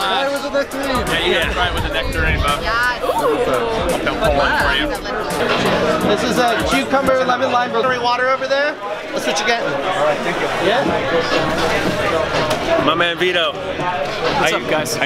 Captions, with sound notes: - Mine was a nectarine! - Yeah, you gotta try it with a nectarine, bro. - Yes! - Ooh! (crowd chattering) - This is a cucumber lemon-lime. Drink water over there? That's what you get. (crowd talking) - My man Vito. - What's up guys?